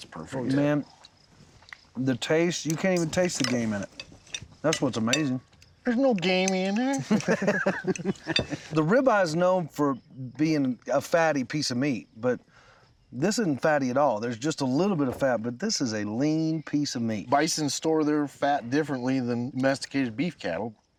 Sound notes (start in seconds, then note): 6.5 laughing